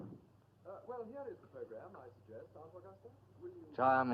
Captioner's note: voice from the other room